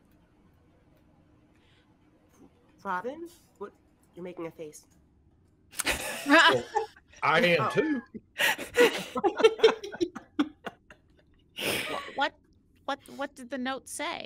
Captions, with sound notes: - Robin. What? You're making a face. (laughter) - I am too. (all laughing) - What did the note say?